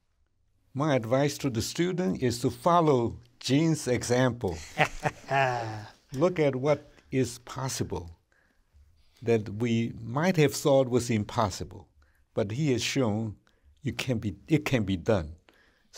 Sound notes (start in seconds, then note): 4.5 laughter